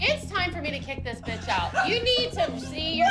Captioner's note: laughs